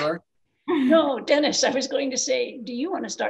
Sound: laughs

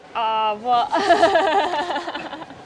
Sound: laughing

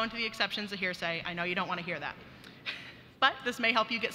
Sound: chuckles

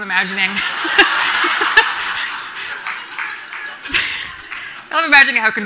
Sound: everyone laughing

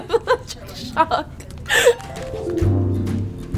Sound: laugh

